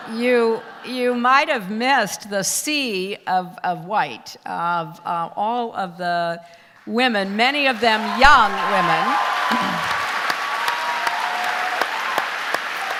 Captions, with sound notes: you might of missed the sea of white, of all of the women, many of them young women, (audience applause)